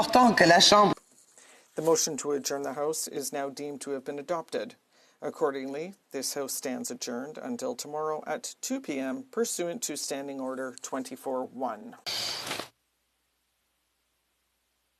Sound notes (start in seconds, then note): 4.7 speaking french